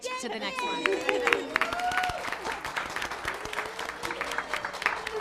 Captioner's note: cheers, applause